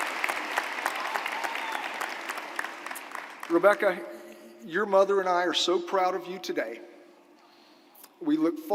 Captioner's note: applause